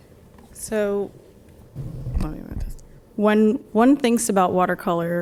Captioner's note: faintly speaking